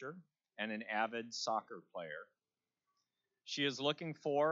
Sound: none

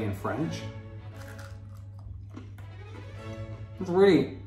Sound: macaron crunching

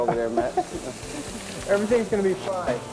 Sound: sizzling sound

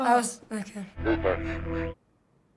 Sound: staticky voice

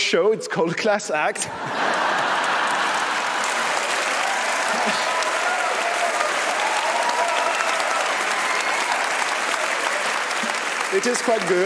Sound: audience laughs and applauds

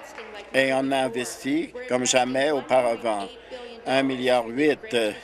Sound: applause

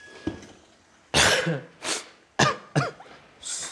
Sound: coughing

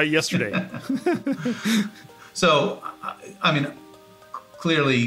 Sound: laugh

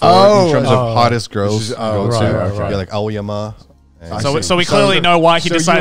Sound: group chattering

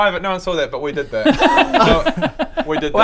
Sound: grossed-out laughter

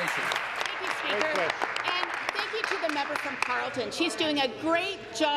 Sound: applause

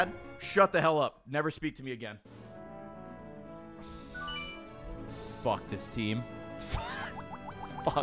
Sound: sighs

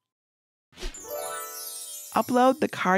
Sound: magical chiming

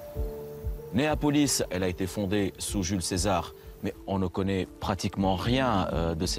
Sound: speaking foreign language

